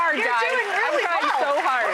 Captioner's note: crowd applauds